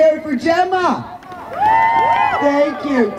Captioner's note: crowd cheers